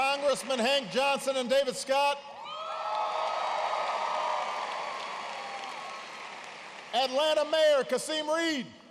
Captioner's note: applause